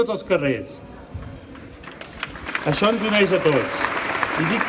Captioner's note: applause